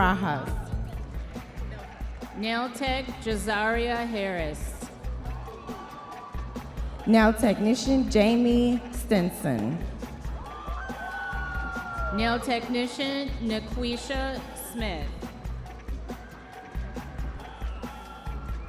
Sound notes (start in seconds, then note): 10.2 audience members cheering